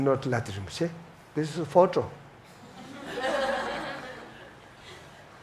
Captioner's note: audience laughs